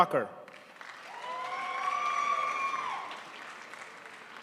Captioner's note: crowd applauds